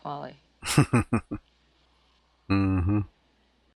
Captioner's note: chuckling